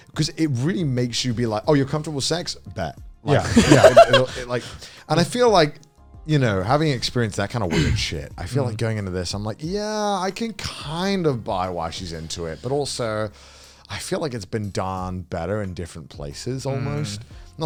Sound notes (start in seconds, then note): 3.3 laughing